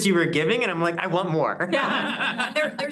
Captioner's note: laughing